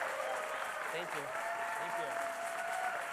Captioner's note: applause